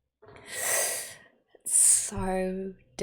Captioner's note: sharp intake of breath